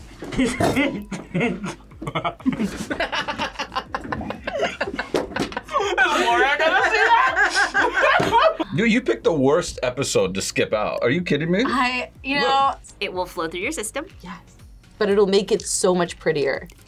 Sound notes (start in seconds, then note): 0.3 laughs; 7.8 both laugh